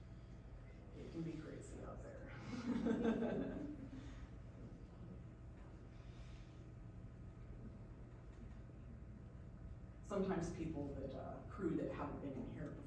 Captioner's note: laughs